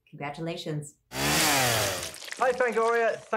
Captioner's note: chainsaw sound